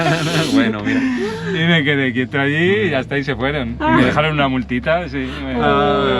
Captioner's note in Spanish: risas